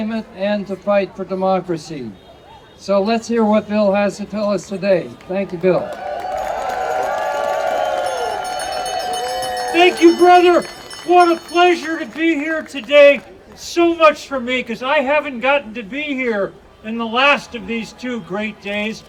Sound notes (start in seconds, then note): 7.9 audience cheering